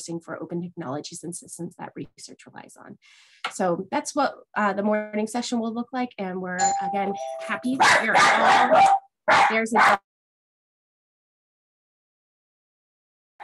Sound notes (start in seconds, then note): 6.6 doorbell; 7.7 dog barking